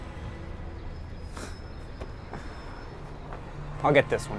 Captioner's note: Terry scoffs